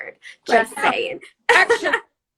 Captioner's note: laughs